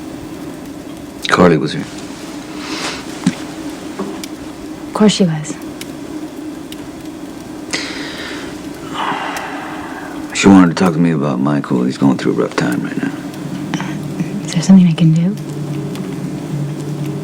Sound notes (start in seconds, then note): 10.4 sighs